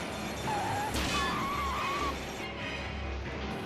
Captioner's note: tires screeching